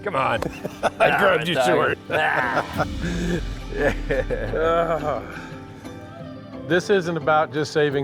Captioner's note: laughing